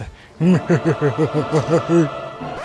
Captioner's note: sarcastic laugh